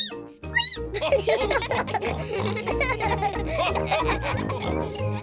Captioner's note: squeaks; all giggle